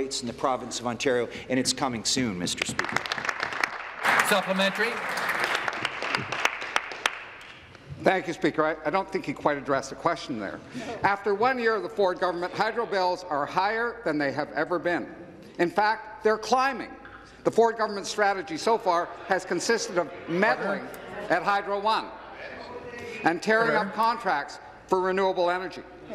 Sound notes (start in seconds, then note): 6.3 applause